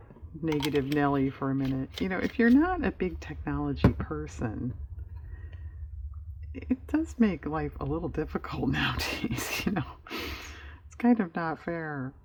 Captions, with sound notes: negative Nellie for a minute, if you're not a big technology person, it does make life a little difficult nowadays (laughs) it's kind of not fair